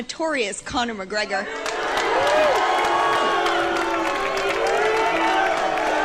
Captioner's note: crowd cheering